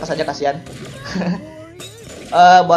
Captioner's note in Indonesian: Laugh